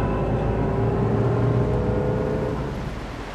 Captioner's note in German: Motorgeräusche